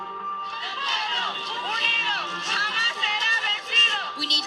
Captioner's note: crowd chanting